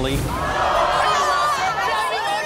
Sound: audience cheers; women yell at each other

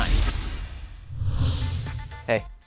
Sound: swoosh

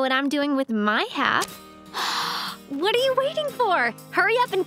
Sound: gasping

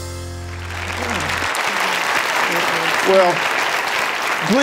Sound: audience applauding

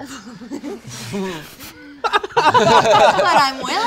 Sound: laughter

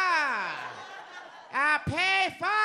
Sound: audience laughs

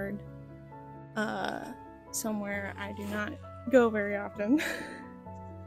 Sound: laughter

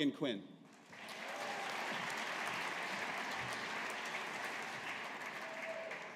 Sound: audience applauding

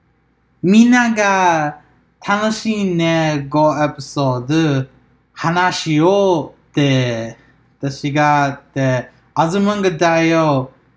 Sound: continues in japanese

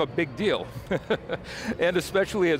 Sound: laughs

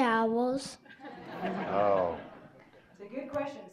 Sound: audience laughing

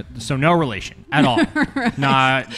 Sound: laughing

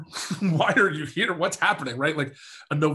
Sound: chuckles

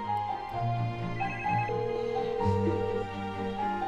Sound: phone ringing

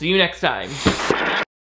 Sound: explosive static

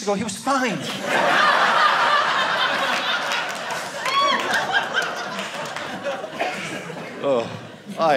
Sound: audience laughing

